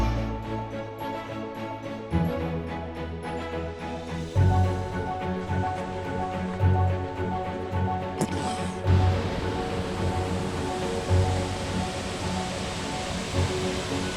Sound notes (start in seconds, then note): 0.1 uplifting instrumental music; 8.0 water rushing